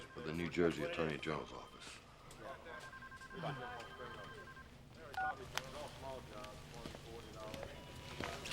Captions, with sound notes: He's with the New Jersey attorney general's office. - Oh. (phone beeping)